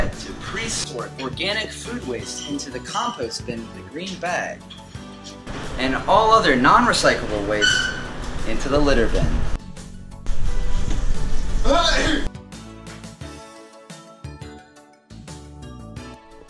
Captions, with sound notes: Don’t forget to sort organic food waste into the compost with the green bag, and all other non-recyclable waste into the litter bin *sneezes*